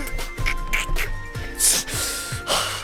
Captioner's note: breathes; exhales